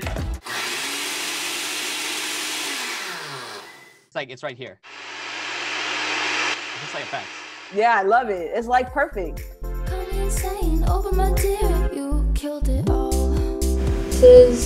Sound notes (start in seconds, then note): 0.4 blender whirring; 8.7 pop music